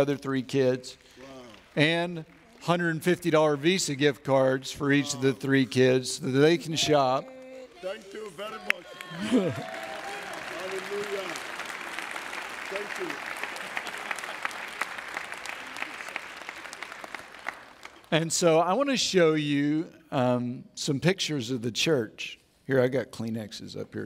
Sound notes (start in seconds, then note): 14.5 audience Cheers